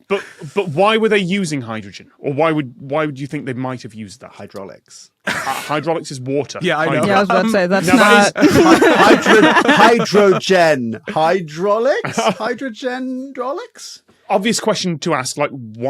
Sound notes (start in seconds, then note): 6.7 laugh